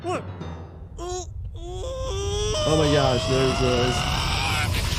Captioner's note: Kenny screaming